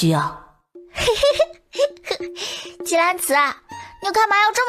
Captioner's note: chuckles